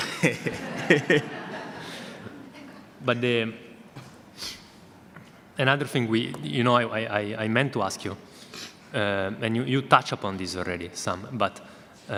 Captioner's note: audience laughter